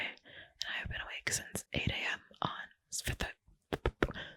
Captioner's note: stuttering; spitting